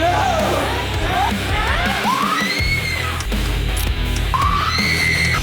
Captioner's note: creatures snarling; Madam Maze screaming; Madam Maze screams